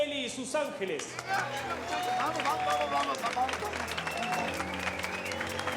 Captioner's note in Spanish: aplausos; gritos y exclamaciones